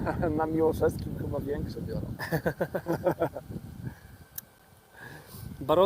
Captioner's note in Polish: śmiech